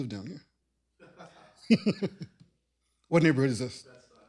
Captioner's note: laughter